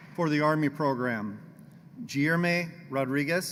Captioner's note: applause